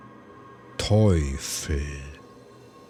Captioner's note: german